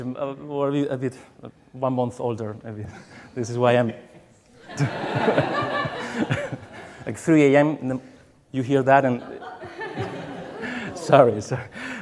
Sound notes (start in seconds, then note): 4.6 audience laughs